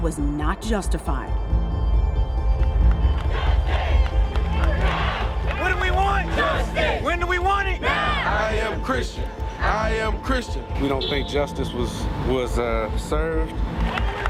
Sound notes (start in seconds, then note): 5.8 crowd; 8.4 crowd